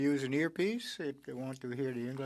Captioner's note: speaking French